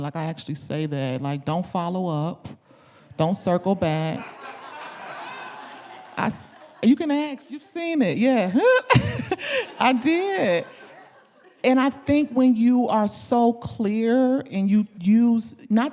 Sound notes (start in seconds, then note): 4.0 audience laughing; 8.5 chuckling